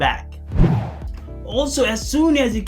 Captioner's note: air swooshing